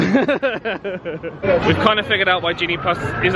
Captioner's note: laughs